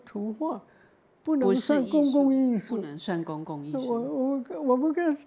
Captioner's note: Mandarin